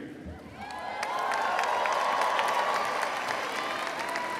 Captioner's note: crowd applauds